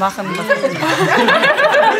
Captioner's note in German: Gelächter